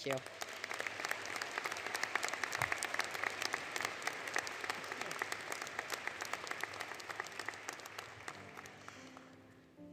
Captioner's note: applause; light Music